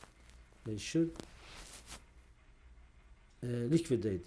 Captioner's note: pauses for 3 seconds